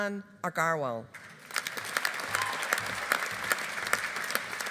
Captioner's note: audience applauding